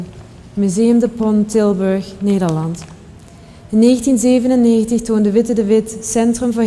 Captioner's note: speaker speaking in a foreign language